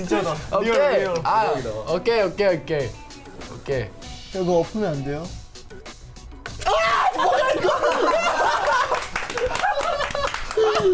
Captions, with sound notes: - Okay! Okay, okay, okay. - Okay. (speaking in Korean) - Ah! Oh my God! (laughs) (claps)